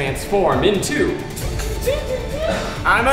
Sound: making hydraulic sounds

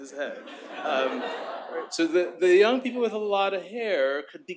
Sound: laughter

